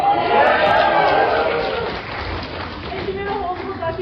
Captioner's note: cheering